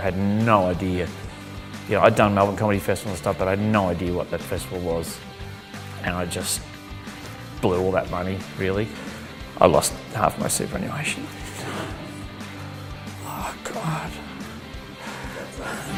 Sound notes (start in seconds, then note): 11.4 exhales shakily; 14.2 shuddering breath